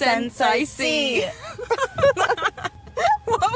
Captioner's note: they both laugh